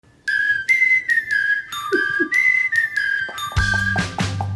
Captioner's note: cheerful whistling